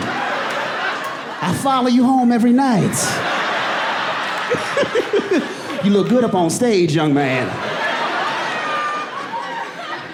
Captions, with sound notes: I follow you home every night. [AUDIENCE LAUGHING] You look good up on stage, young man. All right. I'm performing to this side of the crowd, now.